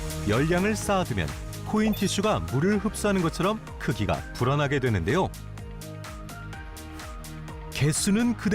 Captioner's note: voiceover